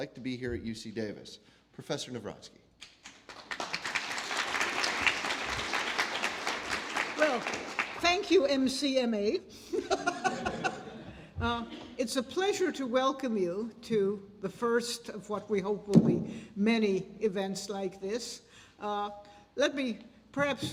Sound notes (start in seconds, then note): 6.5 applause; 9.8 laugh